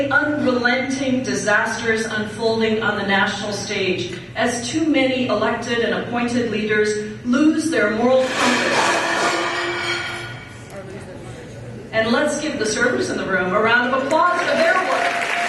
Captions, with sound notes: Unrelenting disasters unfolding on the national stage as too many elected and appointed leaders lose their moral compass (something falls) And let's give the servers in the room a round of applause for their work